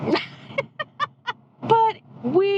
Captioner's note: laughing